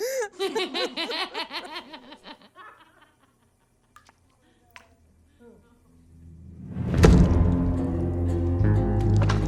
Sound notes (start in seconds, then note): 2.5 laughing continues